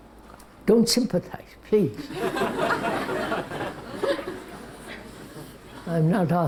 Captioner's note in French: rires